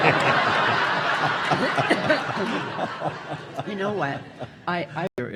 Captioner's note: audience laughing